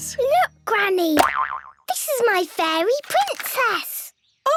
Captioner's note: boing!